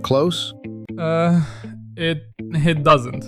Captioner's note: stammers